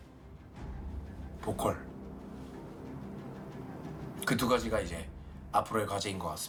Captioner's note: speaking in foreign language